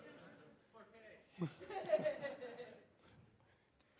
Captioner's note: laughter